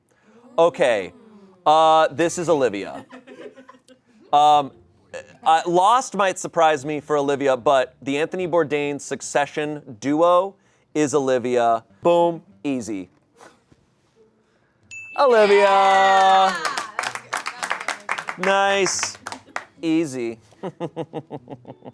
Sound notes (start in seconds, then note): 2.9 audience laughing; 14.9 bell dings; 15.6 audience applauding; 20.5 chuckles